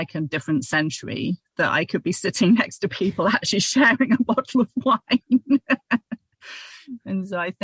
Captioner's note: laughter